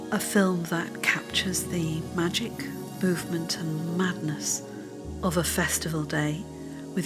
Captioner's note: none